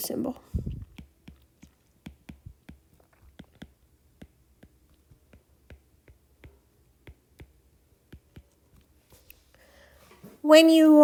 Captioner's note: writing Sounds